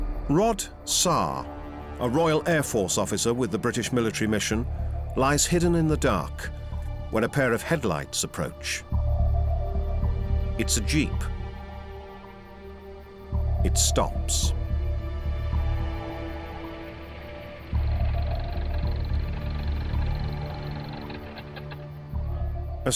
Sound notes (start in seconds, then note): 17.6 engine idles; 21.3 engine stops